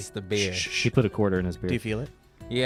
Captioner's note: shushing